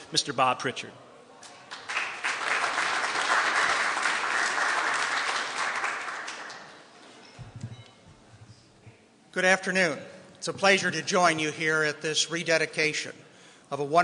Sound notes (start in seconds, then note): 1.5 applause